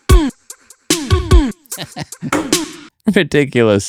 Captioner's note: upbeat music; laughs